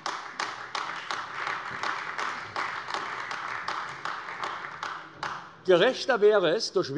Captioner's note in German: Beifall AfD